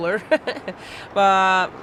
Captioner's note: laughs